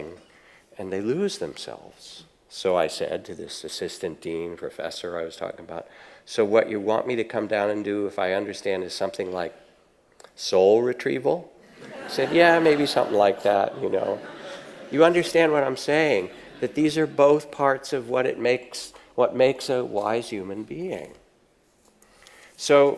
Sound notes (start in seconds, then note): 11.7 audience laughs